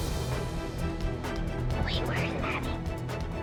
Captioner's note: whispers